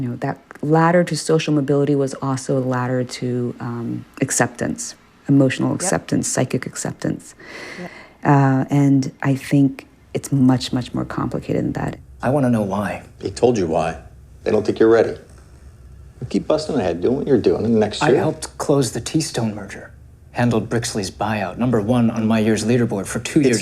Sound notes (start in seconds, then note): 11.8 soundbite of tv show, "pachinko"